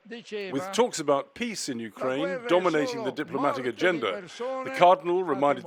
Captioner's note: voice-over